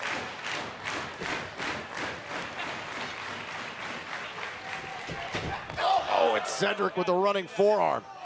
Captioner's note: clapping